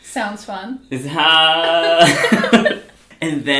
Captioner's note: both laugh